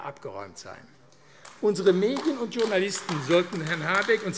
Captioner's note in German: Beifall AfD